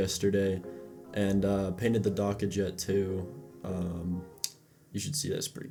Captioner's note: smacks lips